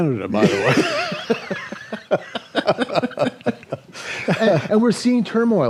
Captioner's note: laughter